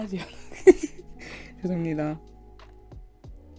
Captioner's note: tee hee